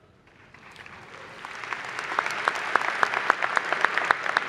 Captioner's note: applause